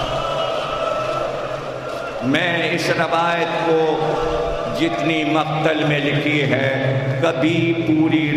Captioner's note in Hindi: चीखने की आवाज़